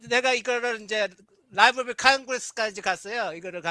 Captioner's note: non-english speech